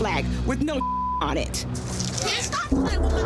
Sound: beep

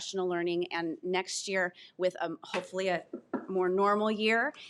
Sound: knuckles rapping

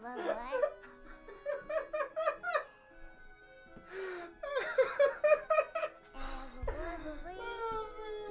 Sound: laughs

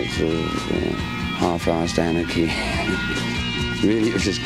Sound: chuckling

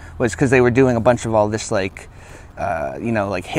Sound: none

